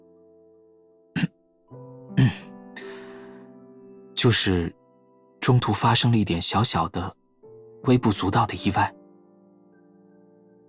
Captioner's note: cough